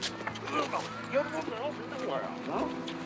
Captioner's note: indistinct chatter